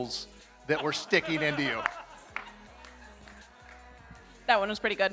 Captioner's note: laughing